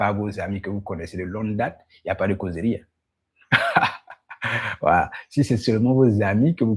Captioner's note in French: rires